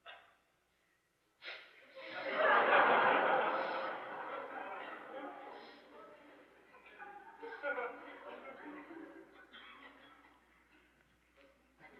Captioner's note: laughter